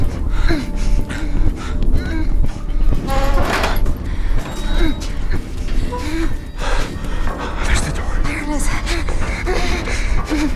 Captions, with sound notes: [DOOR CREAKS] - There's the door. - There it is.